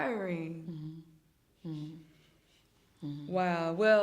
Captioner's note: hums in agreement